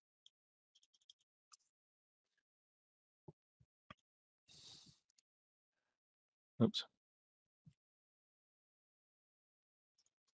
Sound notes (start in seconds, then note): 0.8 mouse clicking